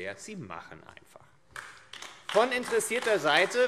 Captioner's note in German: Beifall AfD